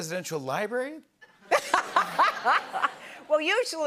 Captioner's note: laughter